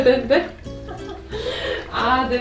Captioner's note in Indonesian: tertawa